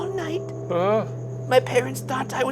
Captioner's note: groaning